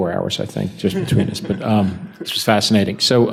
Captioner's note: panel chuckles